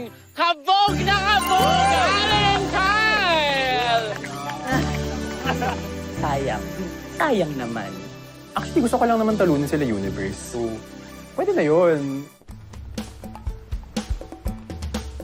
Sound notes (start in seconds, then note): 3.8 clapping, grunts; 3.8 upbeat music playing; 12.8 upbeat music playing